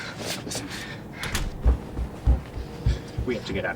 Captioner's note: door closes in distance